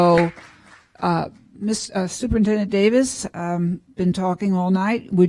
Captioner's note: applause